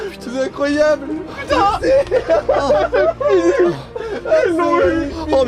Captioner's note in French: cris de joie, pleurs, embrassades